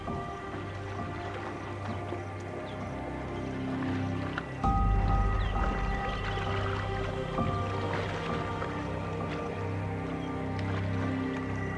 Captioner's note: animals calling